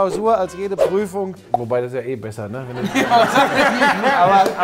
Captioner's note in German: Lachen